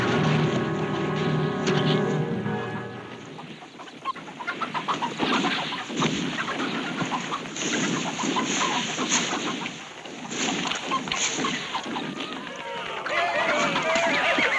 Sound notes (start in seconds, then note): 1.8 crowd cheering and chanting